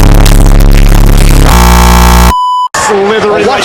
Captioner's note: stutter loop